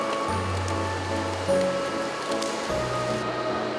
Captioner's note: flatter flapping